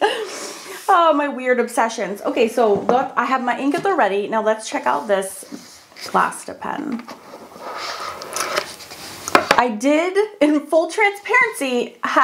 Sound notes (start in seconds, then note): 7.7 box rustles